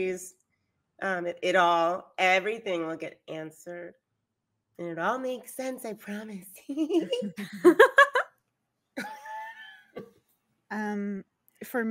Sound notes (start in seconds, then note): 6.9 laughing; 6.9 laughs